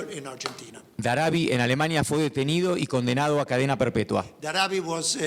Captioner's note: speaking in foreign language